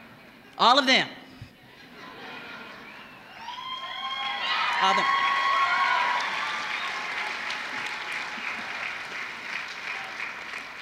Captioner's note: applause